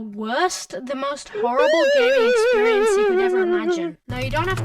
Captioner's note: crying sound plays